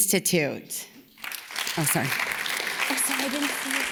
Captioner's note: audience claps